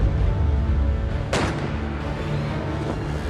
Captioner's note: gun shots